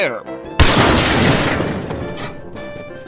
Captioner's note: crash